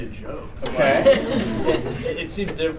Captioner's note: laughter